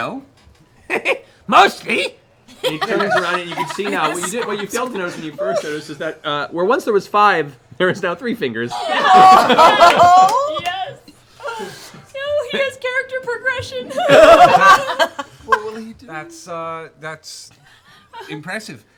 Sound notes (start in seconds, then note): 13.8 laughter